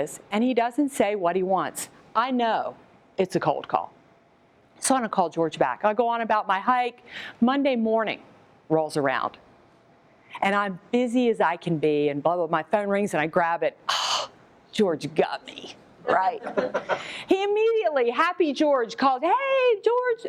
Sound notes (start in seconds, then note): 14.2 moan; 16.1 laughter